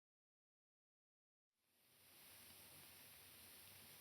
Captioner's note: none